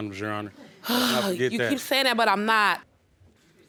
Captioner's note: sighs